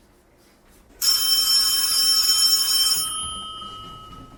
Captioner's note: phone ringing